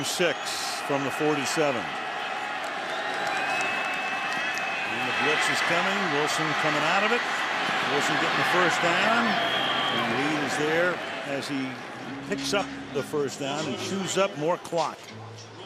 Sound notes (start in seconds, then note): 9.2 whistle